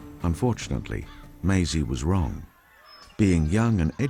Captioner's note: voiceover